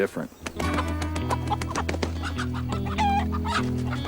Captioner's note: chicken clucking